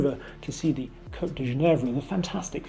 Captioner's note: speaking in French